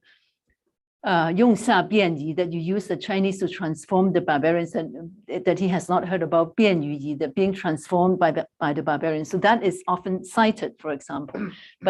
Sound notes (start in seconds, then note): 0.9 non-english; 6.5 non-english